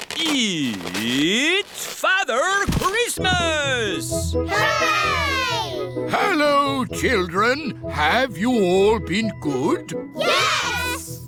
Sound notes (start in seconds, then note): none